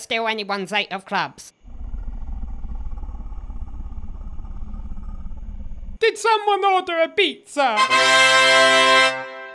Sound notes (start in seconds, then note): 1.6 snarls